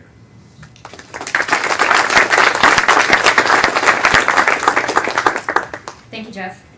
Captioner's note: applause